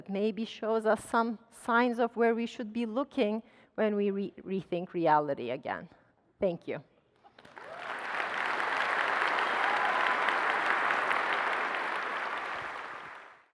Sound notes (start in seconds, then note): 7.3 applause